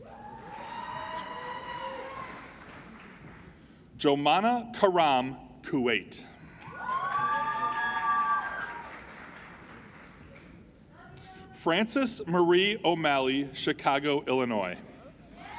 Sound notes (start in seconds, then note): 0.0 applauding and cheering; 6.6 applauding and cheering